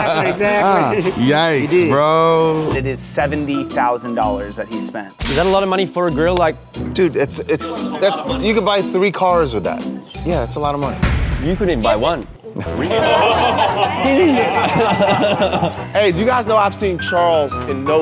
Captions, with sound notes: NICE, BRO. IT IS $70,000 THAT HE SPENT. IS THAT A LOT OF MONEY FOR A GRILLE? DUDE, YOU CAN BUY THREE CARS WITH THAT. YEAH, IT'S A LOT OF MONEY. YOU COULDN'T BUY ONE. [LAUGHTER] HEY, YOU GUYS KNOW I HAVE SEEN CHARLES IN NO LESS THAN